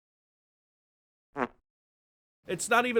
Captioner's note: fart